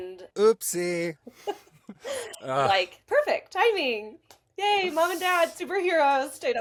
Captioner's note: laughs